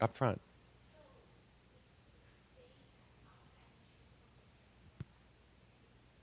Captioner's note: person speaking off mic